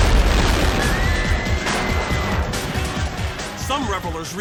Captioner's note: people screaming